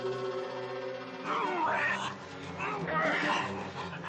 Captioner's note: both grunting